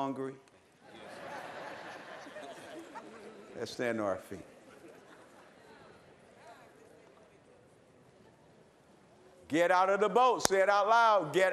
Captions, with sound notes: Y'ALL HUNGRY? [LAUGHTER] LET'S STAND TO OUR FEET. GET OUT OF THE BOAT.